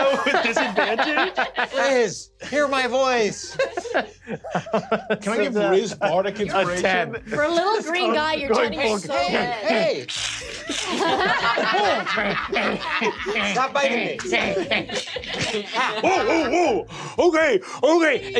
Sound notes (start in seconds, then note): 0.0 Murph laughing; 3.5 laughs; 10.0 Murph hissing angrily; 14.5 Murph growling and chomping